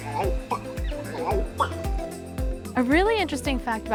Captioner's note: bird calling; laughs